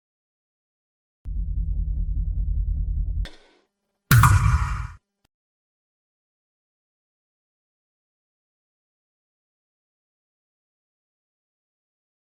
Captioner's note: whispers